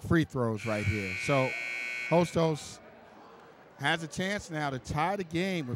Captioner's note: buzzer buzzes